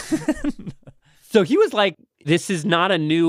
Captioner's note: laughs